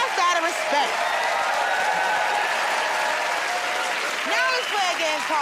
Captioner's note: cheers and applause